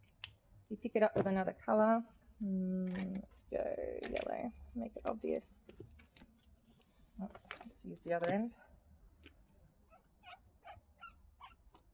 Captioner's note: nib plastic squeaky clean noise